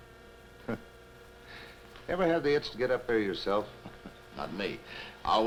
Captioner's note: scoffs